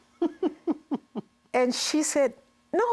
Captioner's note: laughs